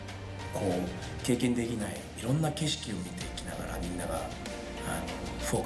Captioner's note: speaking foreign language